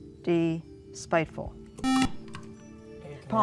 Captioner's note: beep